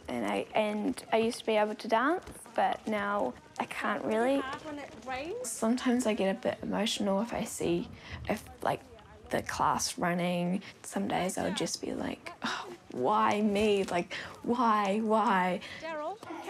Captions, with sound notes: And I used to be able to dance, but now I can't really. Sometimes I get a bit emotional if I see, like, the class running. Some days I'll just be like, '(SIGHS) Why me?' Like, 'Why, why?'